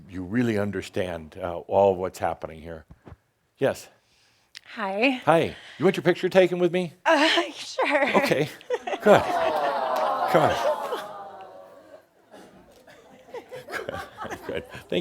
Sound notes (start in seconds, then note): 7.9 she chuckles and audience says, “Awww!”; 13.2 they chuckle